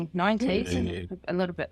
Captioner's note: laughs